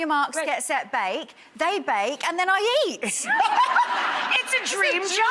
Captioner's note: laughs